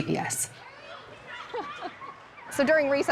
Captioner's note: kids chattering happily